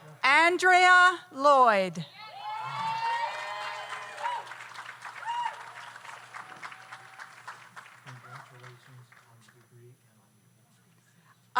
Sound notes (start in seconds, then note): 2.2 audience cheers; 2.6 audience applauds